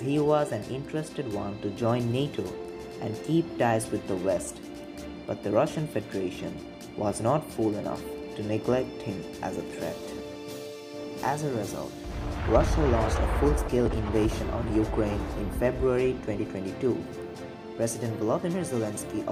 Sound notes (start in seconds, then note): 9.2 gunfire and bomb sound during dictation